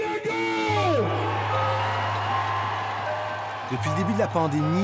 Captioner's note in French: acclamations